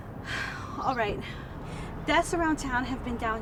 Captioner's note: sighs